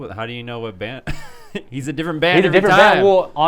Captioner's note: laughs